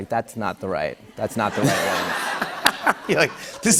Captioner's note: laughter